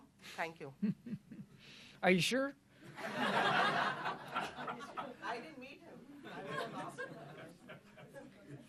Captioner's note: laughter